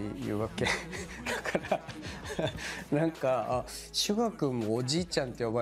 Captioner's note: laughs